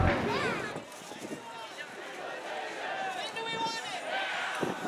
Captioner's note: distant chant